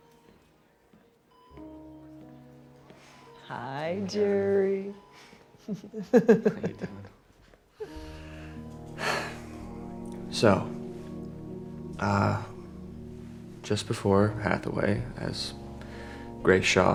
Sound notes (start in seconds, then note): 5.6 chuckling; 7.8 sighs